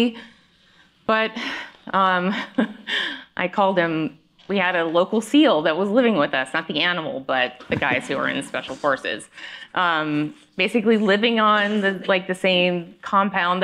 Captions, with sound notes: But... (chuckles) I called him-- we had a local SEAL that was living with us, not the animal, but the guys that were in Special Forces. (laughter) Basically living on, like, the same compound